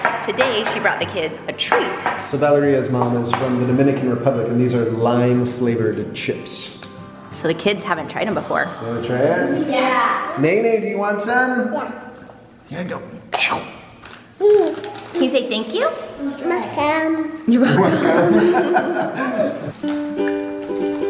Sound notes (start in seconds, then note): 14.3 chomp; 17.5 laughs; 20.8 upbeat music